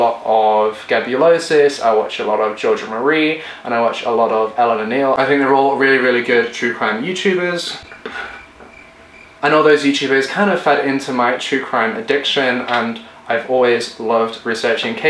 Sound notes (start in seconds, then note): 7.8 crickets